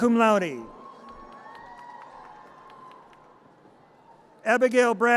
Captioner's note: audience cheers